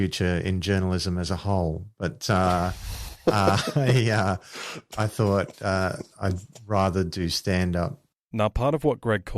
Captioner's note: laughts